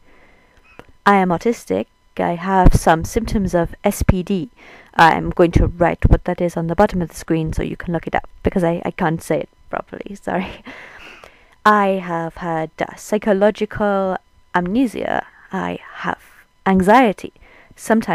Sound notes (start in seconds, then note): 10.4 laughing